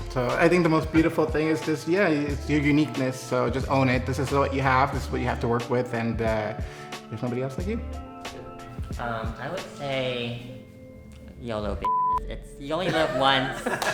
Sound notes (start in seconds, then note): 11.8 beep; 12.9 everyone laughing